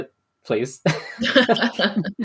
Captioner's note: laughs